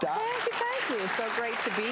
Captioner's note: audience applause